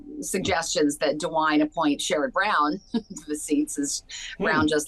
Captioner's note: laughs